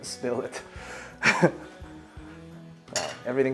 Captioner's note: chuckles